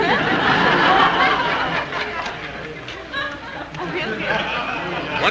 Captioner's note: audience snickering